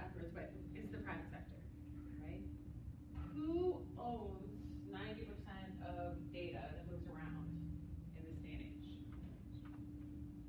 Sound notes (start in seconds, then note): none